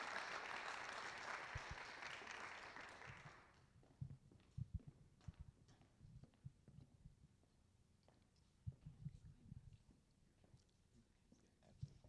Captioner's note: applause